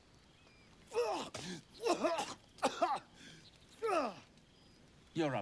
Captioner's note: Astarion gagging and coughing